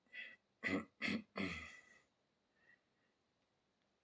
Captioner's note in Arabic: تنحنُح